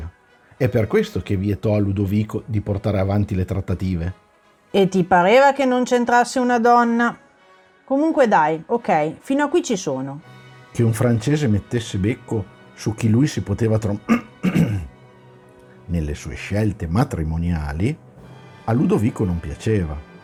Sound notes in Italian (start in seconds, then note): 14.0 coff... coff